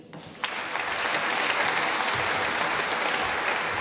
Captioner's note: applause